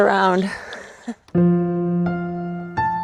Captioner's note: laughs softly; gentle music